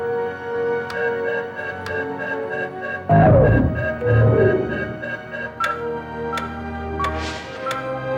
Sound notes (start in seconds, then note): 0.9 computer beeps; 0.9 dramatic music